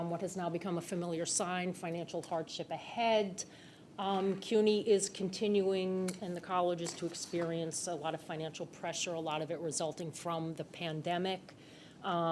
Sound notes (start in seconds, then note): none